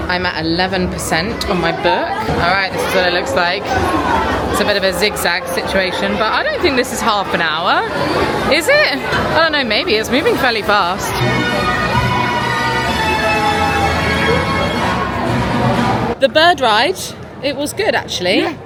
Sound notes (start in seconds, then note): 4.0 tourists chattering; 10.9 bright music